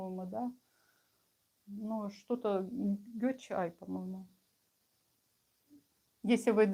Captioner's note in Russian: none